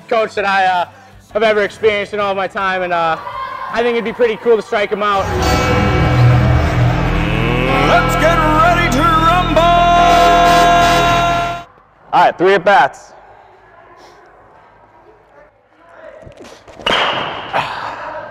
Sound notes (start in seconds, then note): 17.5 grunt